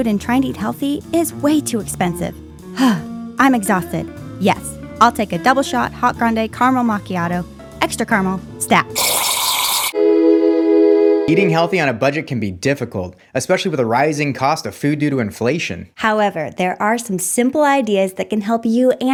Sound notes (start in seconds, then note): 2.7 sighs